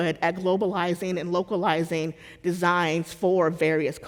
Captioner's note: none